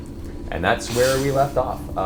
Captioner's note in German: lacht